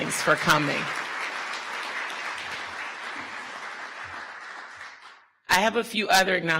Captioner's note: audience applause